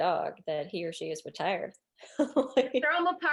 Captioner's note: laughs